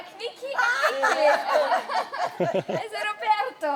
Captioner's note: laughing